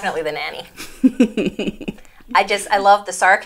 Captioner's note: chuckle